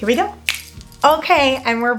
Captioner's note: fingers snapping